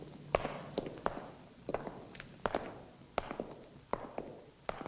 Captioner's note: footsteps echoing